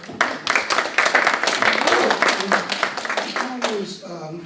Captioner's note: applause